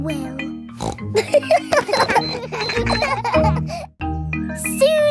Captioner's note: snorts; kids laughing